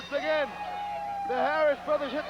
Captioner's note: bell ringing